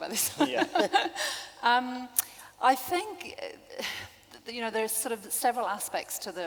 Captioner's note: laughing